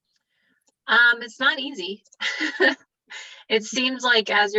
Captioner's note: laughing